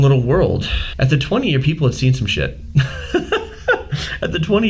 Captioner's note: laughing